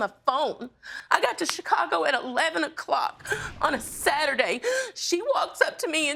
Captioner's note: sobbing